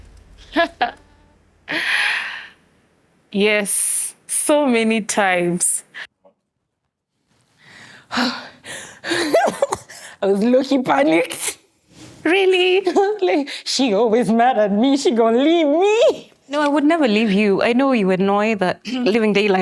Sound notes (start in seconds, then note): 0.6 laughing; 8.1 laughing